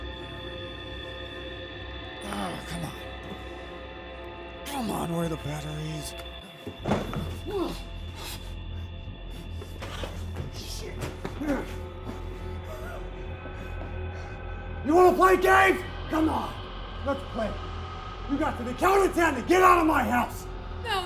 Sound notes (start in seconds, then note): 6.7 box thuds; 7.7 Kenny screams; 8.5 tense music; 12.7 laughs